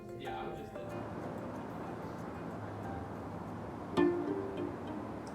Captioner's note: cars whirring